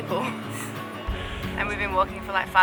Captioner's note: laughing